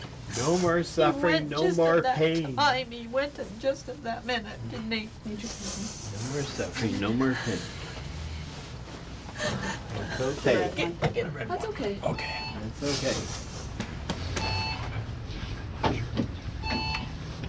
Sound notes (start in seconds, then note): 9.4 continues Sobbing; 14.4 alarm Beeping